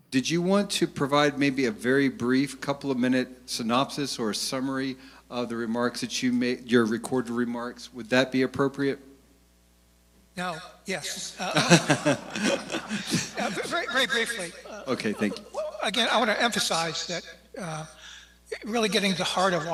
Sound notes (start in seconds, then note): 11.4 laughter